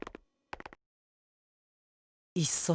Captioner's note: silence